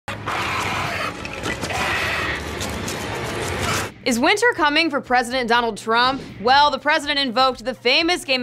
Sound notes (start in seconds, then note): 0.0 screeching; 0.1 dramatic music